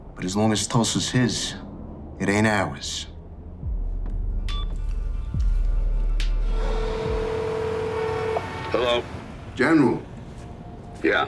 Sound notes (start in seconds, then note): 4.4 low tense music; 4.4 phone beeping; 6.8 phone ringing